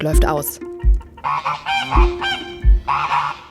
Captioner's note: chatter